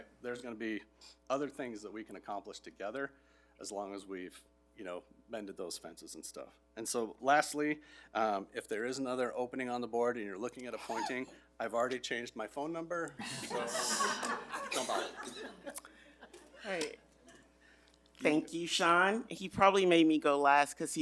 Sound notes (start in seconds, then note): 13.2 board members laugh